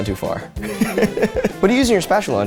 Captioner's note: laughs